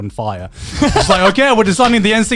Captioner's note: chuckling